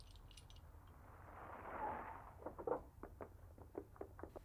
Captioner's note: cars outside